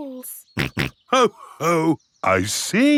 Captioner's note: snorts